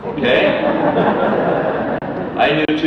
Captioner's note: audience laughter